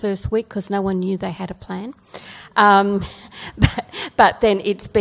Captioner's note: laughs